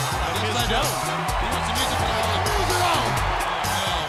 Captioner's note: crowd cheering